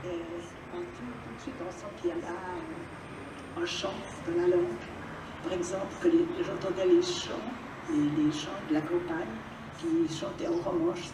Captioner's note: non-english speech